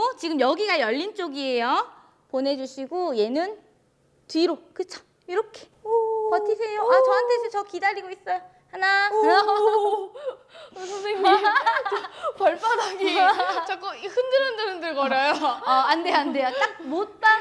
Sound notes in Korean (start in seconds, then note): 9.1 울음; 10.8 웃음